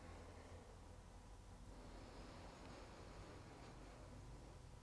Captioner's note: deep breathing